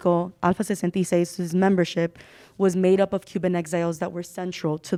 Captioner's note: speaking Spanish